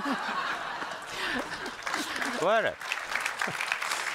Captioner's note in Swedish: Skratt och applåder från publiken